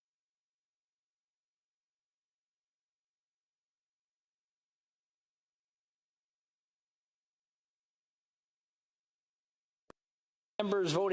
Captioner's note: speaking french